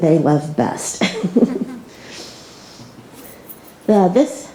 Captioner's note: laughs